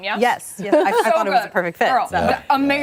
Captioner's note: laughter